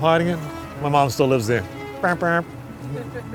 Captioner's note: honking noise